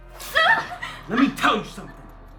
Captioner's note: Emily screaming